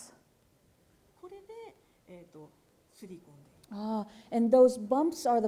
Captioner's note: speaking japanese